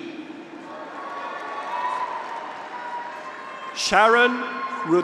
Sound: graduates cheer

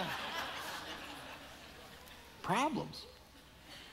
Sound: audience laughing

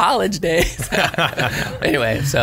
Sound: laughs

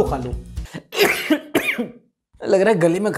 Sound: coughs

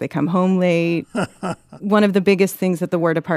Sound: laughs

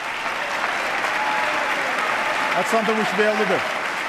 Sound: applause

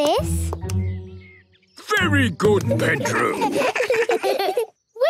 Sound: children giggle

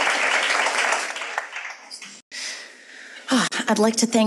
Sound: audience applauds

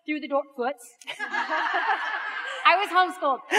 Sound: audience laughs

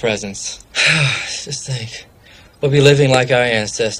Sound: sigh

